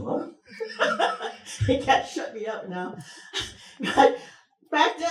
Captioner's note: laughs